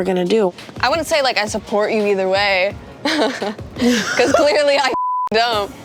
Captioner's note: laughing